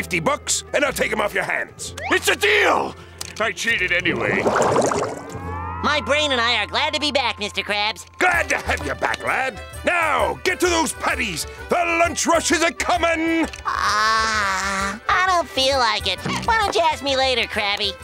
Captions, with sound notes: and I'll take 'em off your hands? It's a deal! I cheated anyway. My brain and I are glad to be back, Mr. Krabs. Glad to have you back, lad. Now, get to those patties! The lunch rush is a-comin'! [yawning] I don't feel like it! Why don't you ask me later, Krabby?